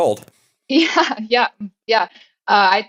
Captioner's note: laugh